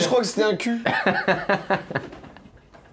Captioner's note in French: rire